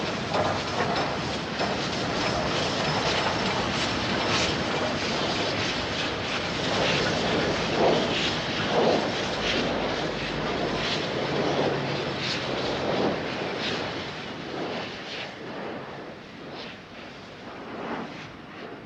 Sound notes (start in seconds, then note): 3.6 train passes